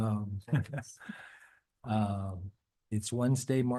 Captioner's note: laughing